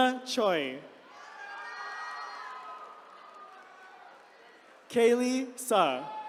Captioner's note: attendees cheering